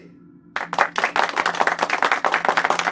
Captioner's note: clapping